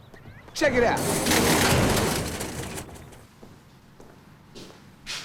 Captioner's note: door rattles